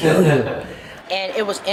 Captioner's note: laughs